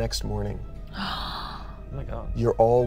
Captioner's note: gasps